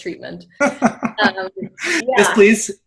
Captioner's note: laughs